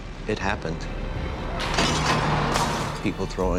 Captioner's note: rock crashing, glass shattering